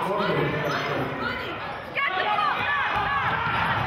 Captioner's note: yelling